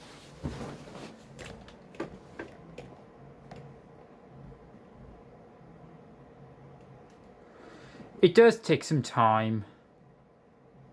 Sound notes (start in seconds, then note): 0.0 fans spinning in the background